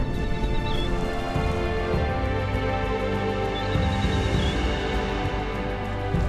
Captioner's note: birds chirping